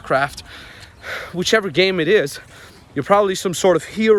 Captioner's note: breathes heavily